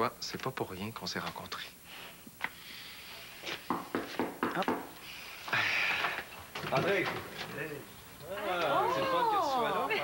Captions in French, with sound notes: Tu vois, c'est pas pour rien qu'on s'est rencontrés. (On frappe à la porte.) Oh! Entrez! Oh!